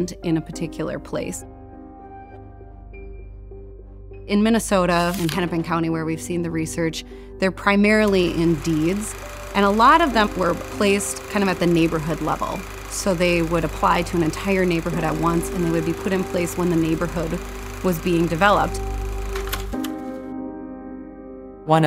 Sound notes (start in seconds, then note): 19.0 projector clicks; 20.5 quiet piano music